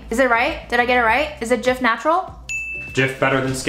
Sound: dinging

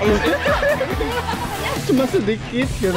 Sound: chuckled

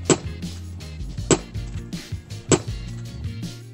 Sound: squash thumping

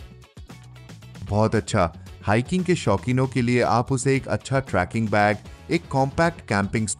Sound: Nova 2 Sonic speaking in Hindi language

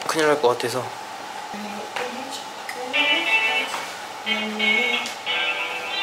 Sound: humming

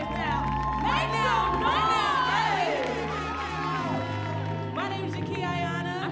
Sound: audience cheering

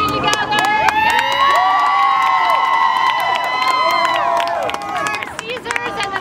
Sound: claps; cheering

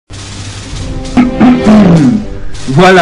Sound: clears throat

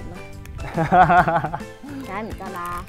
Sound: laughing

